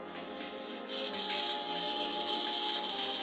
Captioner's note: machine hissing